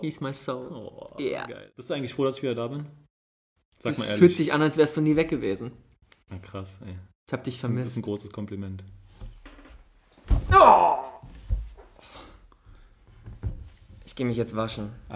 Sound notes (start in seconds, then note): 9.4 aww